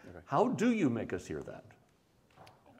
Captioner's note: none